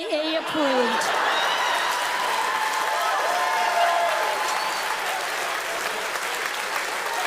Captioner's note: audience cheers and laughs; applause continues